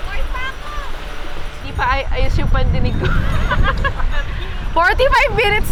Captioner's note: laughs